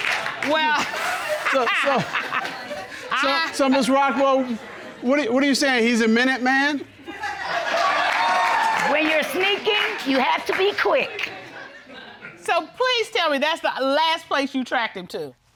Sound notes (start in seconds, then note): 0.1 laughs; 6.9 audience laughing